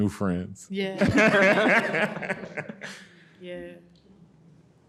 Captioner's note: everyone laughing